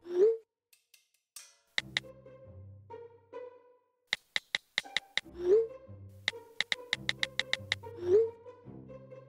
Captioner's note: keyboard typing once again